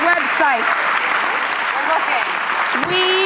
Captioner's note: applause